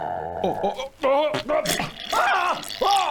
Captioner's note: pfffpfft